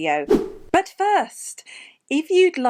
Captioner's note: air whooshing